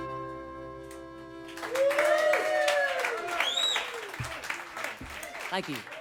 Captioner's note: cheers and whistles